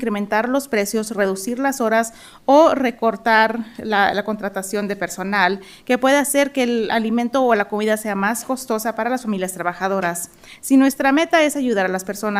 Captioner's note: speaking in spanish